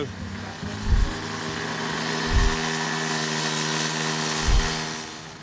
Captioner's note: grinding machine swirling sound